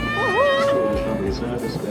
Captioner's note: cheering